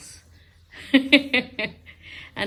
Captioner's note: chuckles